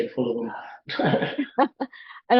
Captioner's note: both laughing